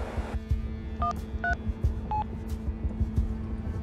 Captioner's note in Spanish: Sonido al marcar